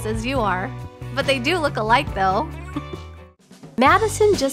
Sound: chuckle

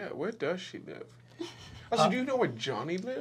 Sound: giggling

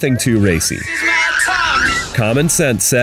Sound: two girls squeal

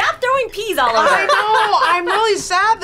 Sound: laughs

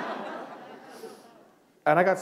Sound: laughter

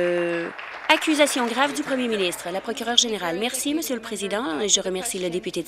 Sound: applause

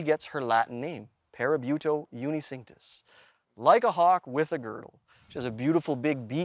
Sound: non-english speech

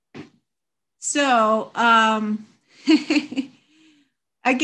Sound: chuckles

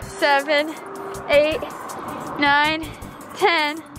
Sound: none

